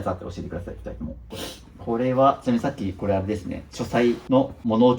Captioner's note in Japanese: 鼻息